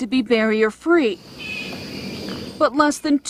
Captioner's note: birds chirping